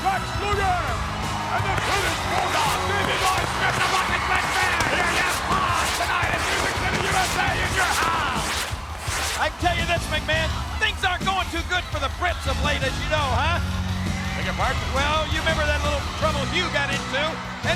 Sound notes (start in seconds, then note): 2.6 fireworks bang